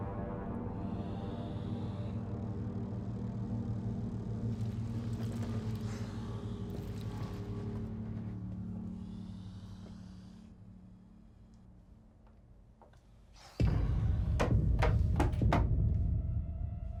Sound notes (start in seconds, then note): 8.8 spider hissing; 13.5 suspenseful music